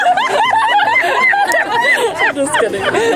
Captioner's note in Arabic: يضحك